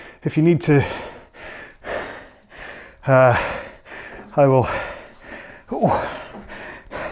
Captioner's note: breathes heavily